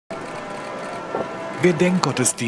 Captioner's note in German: Glockenläuten